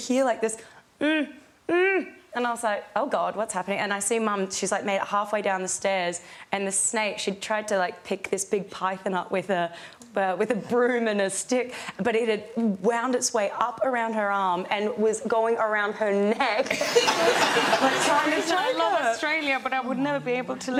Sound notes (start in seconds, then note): 16.7 audience laughs